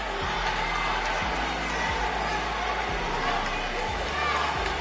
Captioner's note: booing continues